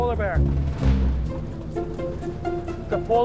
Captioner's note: airplane humming